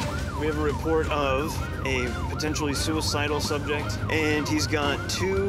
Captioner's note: siren wailing